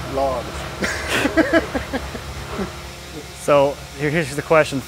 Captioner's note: laughing